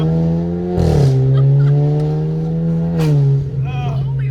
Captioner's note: engine revving; laughing